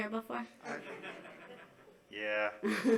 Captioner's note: laughing